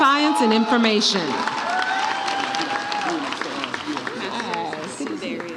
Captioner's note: audience cheers